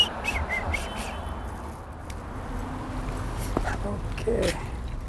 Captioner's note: whistling